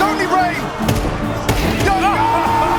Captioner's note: rifle firing